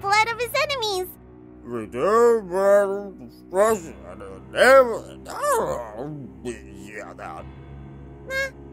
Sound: drunken gibberish

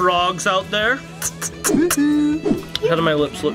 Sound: smooching

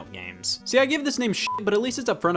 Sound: beep

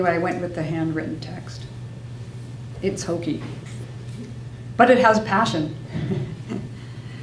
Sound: laughs

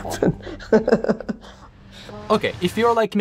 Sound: laughing

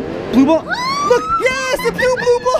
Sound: cheers

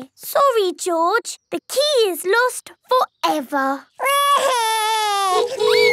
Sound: honking; wailing

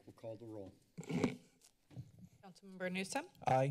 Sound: microphone rustling

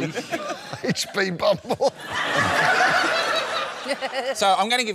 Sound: laughter

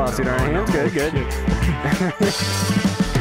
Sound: laughs

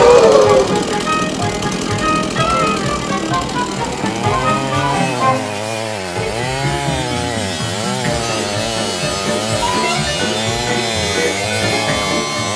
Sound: audience gasp; sound of chainsaw

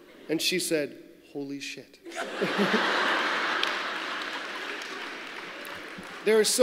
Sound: laughter

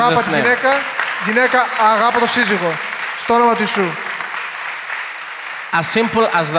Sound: applause

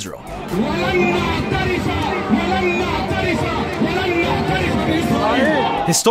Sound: protestor speaking in foreign language

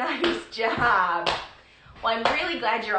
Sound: slapping

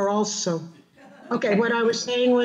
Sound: audience laughing

